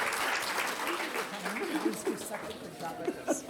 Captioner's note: applause